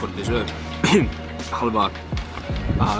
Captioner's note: cough